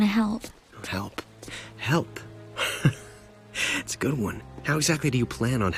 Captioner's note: chuckles